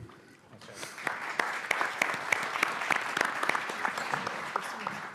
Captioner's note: audience clapping